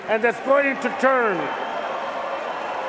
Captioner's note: cheers and applause